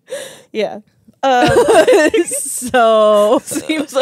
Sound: laugh

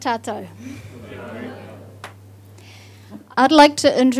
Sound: audience responds

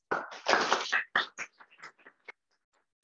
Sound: applause

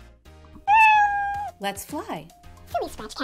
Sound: meow

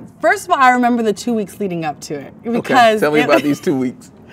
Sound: laughs

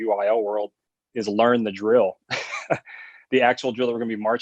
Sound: laughs

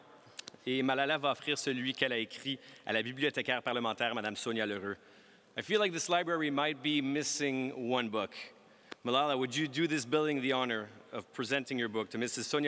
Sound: speaking french

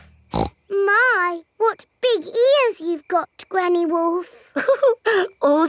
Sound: snorts; chuckles

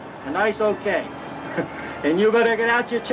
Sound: laughing

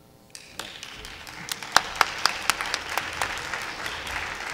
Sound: audience applauding

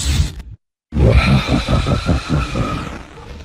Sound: laughter

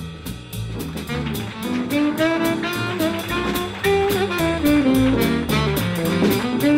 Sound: jazz music; audience applauds

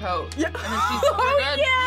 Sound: laughs

